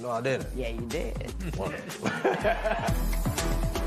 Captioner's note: laughter